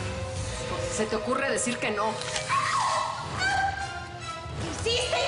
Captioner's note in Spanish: Crujido de huesos